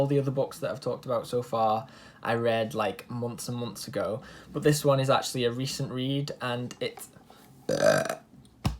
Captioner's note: burps